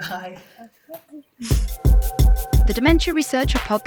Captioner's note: chuckles